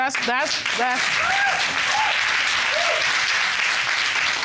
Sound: audience applauding

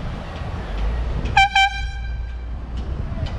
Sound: airhorn

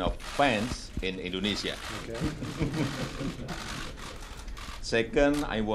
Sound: laughter

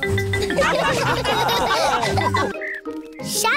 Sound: laughter

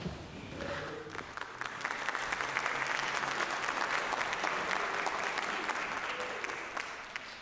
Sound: applause

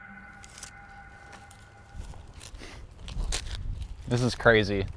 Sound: brush rustles

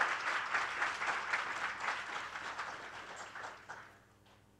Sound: applause

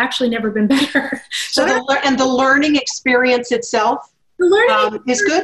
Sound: laugh

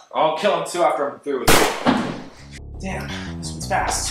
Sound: bang!

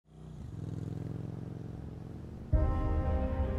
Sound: motorbike roaring; pensive music

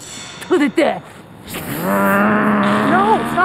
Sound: hissing and growling

